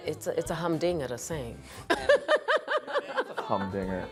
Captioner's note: laughing